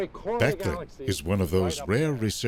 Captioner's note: voiceover